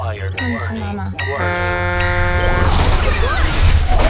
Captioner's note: spaceship horn honking